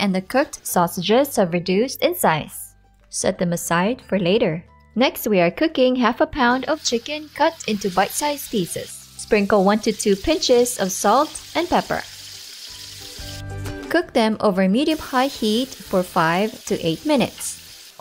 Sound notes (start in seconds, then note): 8.4 oil sizzling; 12.3 oil sizzling